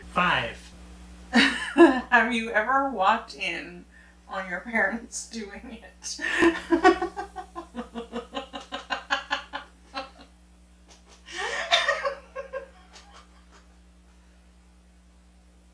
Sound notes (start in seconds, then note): 6.1 laughing